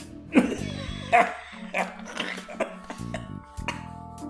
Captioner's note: coughing